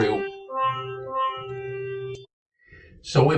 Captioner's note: horn blaring